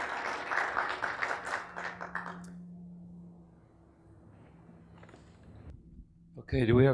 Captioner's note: spectators Applauses